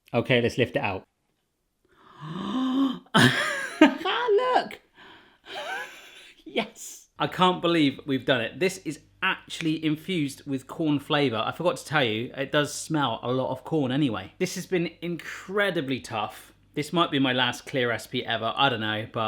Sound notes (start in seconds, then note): 1.9 gasps; 5.5 laughs